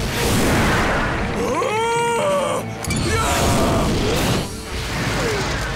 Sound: shrieking

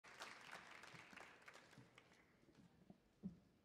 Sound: audience clapping

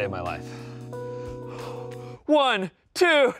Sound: heavy breathing

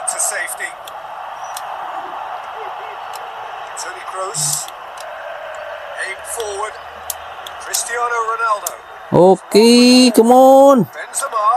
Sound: applause

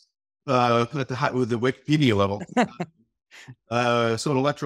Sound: chuckling

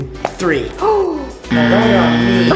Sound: gasping; buzzer buzzing

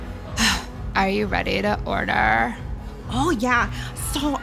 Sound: sighs

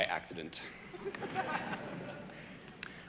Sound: audience laughing

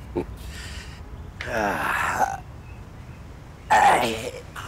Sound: moans

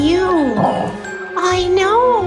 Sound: dog grumble

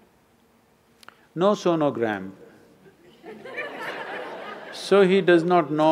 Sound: laughter

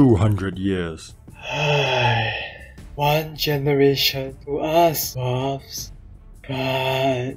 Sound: sighs

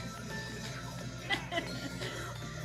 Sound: laughing

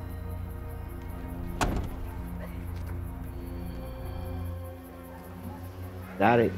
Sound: door closes

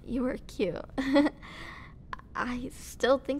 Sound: nervous laugh

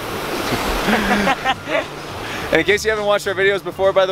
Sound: laughter

